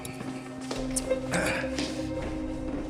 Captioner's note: rafael grunts